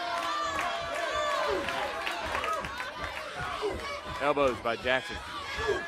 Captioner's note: crowd cheering